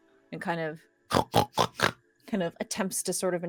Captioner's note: Pivam snorts